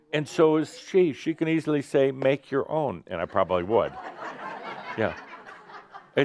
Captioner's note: some laughter